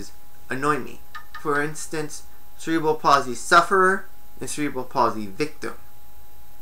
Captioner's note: knocking sound